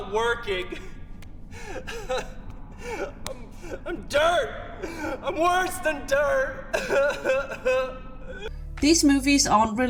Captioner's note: sobs; cries